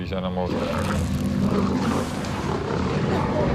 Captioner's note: growling